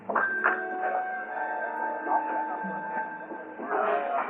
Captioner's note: people chattering